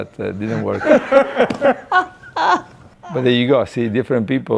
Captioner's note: laughing